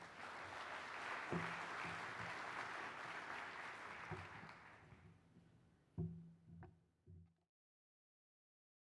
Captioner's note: clapping